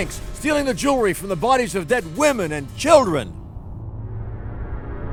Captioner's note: voiceover